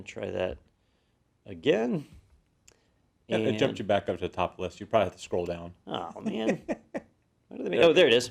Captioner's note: laugh